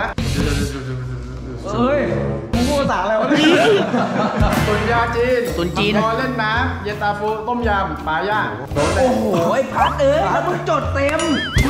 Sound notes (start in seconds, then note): 3.1 laughs